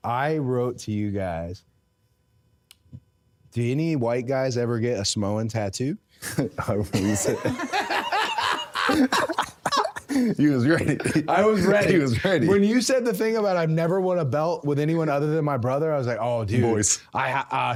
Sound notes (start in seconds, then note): 6.3 both laughing